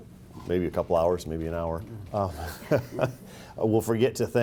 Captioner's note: laughs